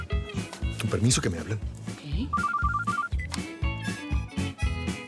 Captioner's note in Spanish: Suena el celular